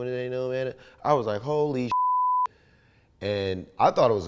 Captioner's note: beep